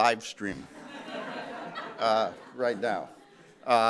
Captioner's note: laughter